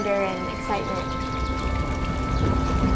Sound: birds chirping; water lapping

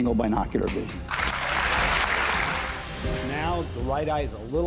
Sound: audience clapping

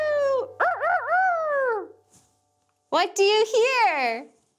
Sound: crowing

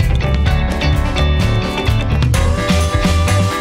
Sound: heart beating

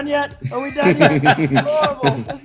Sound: laugh

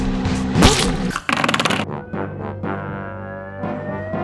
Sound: loud thump

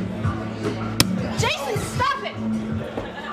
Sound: fist thuds

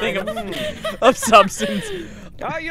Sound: laughing

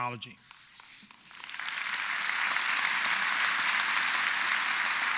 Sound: audience applauds

